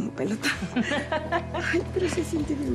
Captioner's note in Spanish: risas